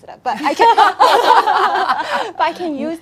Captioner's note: laughing